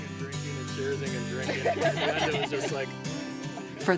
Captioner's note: all laughing